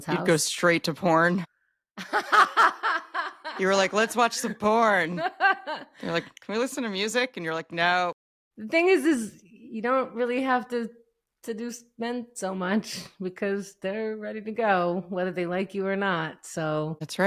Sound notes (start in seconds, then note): 2.0 laughing